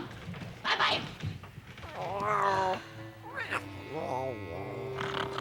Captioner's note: Annie sighs; Tasha moans; soft music